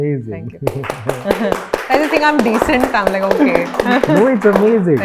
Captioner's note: applauses